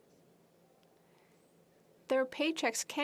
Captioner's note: speaking French